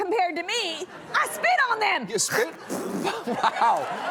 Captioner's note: spitting loudly